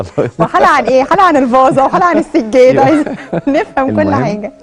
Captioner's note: sarcasm!